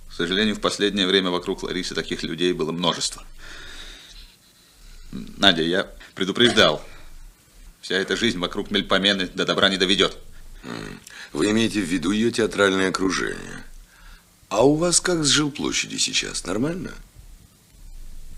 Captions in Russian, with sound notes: К сожалению, в последнее время вокруг Ларисы таких людей было множество. Надя, [откашливается] я предупреждал. Вся эта жизнь вокруг Мельпомены до добра не доведёт. [откашливается] Вы имеете в виду её театральное окружение? А у вас как сжилплощади сейчас? Нормально,